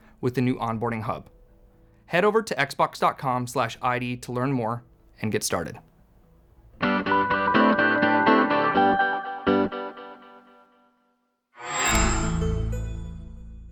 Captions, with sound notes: with the new Onboarding Hub." Head over to Xbox.com/id to learn more and get started. [UPBEAT MUSIC PLAYING] [MICROSOFT SOUND]